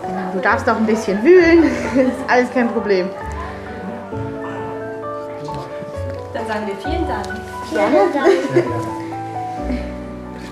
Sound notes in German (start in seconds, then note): 3.9 Emotionale Klaviermusik; 7.3 lachend